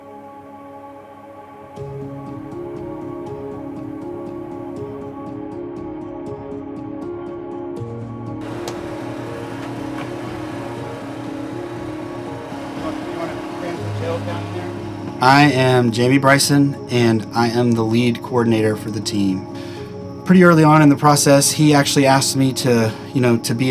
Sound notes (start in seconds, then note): 0.2 gentle uplifting music; 13.4 people chattering